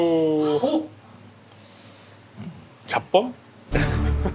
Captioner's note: inhale